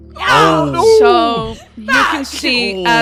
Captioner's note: grunts from everyone